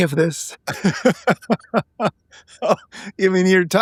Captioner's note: laughing